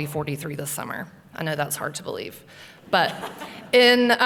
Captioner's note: laughter